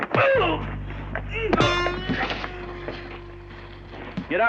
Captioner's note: groaning